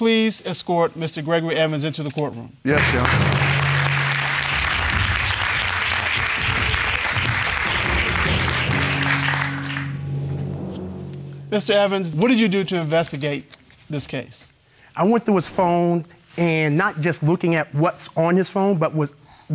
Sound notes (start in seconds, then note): 4.6 audience applauding; 6.1 dramatic music